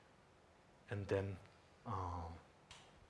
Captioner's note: speaking in Tibetan